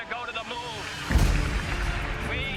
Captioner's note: applause